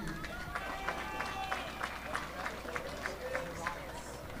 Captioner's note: audience applauding